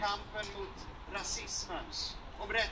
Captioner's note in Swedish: none